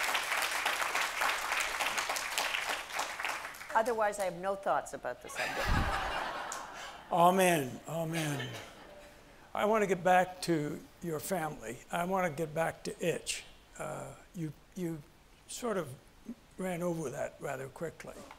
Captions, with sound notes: Otherwise I have no thoughts about the subject. (audience laughs) Amen, amen. I want to get back to your family. I want to get back to Itch. You sort of ran over that rather quickly.